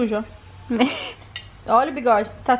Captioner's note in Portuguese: rindo